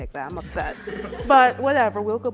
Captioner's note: laughter